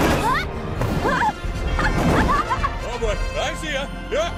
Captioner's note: yelps and laughs